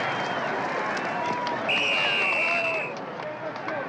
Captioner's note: referee blowing whistle